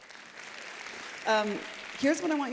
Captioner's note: applause